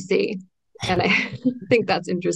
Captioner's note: both laugh